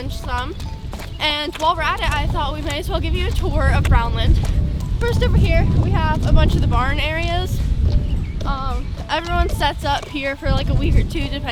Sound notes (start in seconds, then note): 4.5 wind blowing